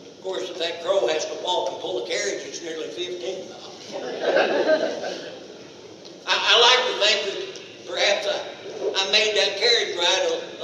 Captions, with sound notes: course if that crow has to walk and pull a carriage it's nearly 15 miles [audience laughs] I ...I like think perhaps that I made that carriage ride